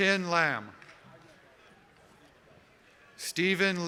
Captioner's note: cheers and applause